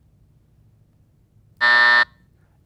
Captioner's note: buzzer buzzing